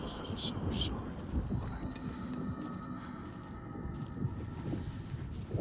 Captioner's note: wind blowing